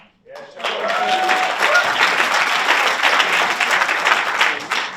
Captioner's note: audience applauds